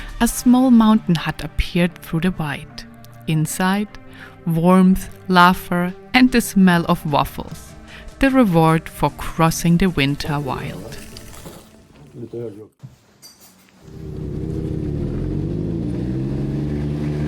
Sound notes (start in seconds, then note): 11.7 waffle crunching; 13.8 engines humming